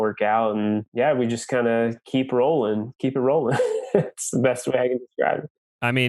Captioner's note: laughs